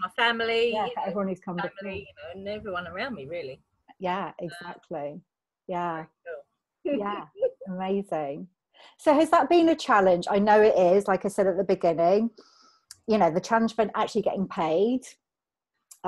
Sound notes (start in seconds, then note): none